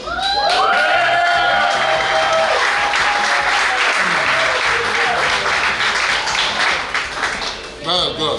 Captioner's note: cheering & Clapping